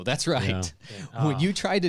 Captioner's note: laughing